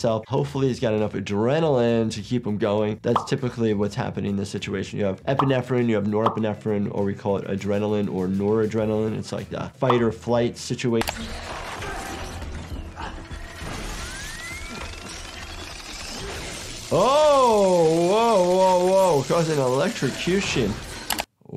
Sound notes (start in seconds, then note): 11.2 mechanical whirring; 16.1 electrical zapping